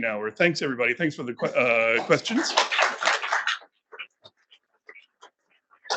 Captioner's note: attendees applauding